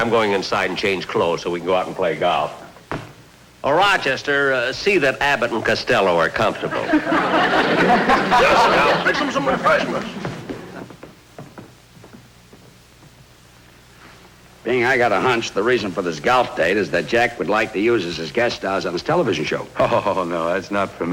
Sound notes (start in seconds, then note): 6.5 audience Laughing; 10.0 footsteps Up Steps